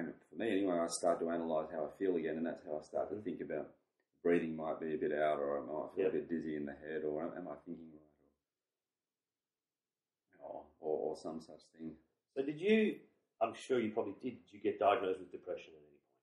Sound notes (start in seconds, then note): none